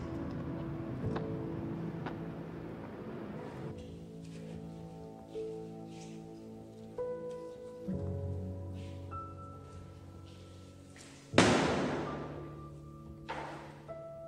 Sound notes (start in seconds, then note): 11.3 bag bangs